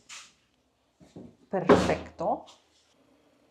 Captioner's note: in Spanish